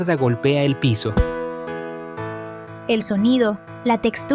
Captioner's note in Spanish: sonido opaco